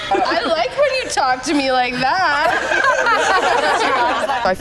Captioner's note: laughter